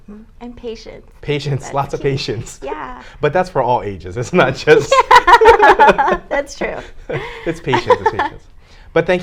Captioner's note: both laugh